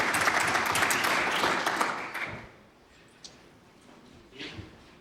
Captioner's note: applause